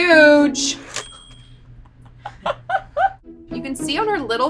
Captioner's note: bell dings; laughs